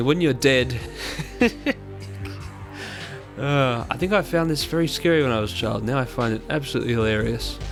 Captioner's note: laughter